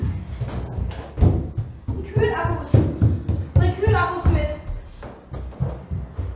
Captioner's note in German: Kiano schnappt erschrocken nach Luft; Poltern auf der Treppe